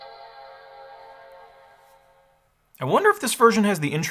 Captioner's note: Mac Startup Chime